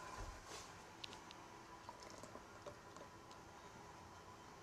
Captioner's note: juice pouring